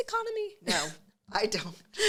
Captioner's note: scoffs